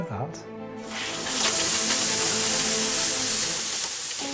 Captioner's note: hissing